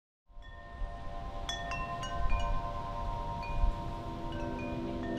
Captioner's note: chimes ringing